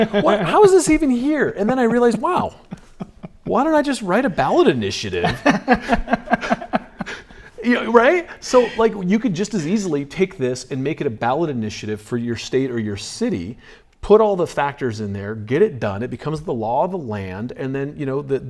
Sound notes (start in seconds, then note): 5.0 laughs